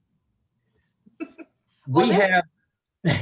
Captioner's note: laughing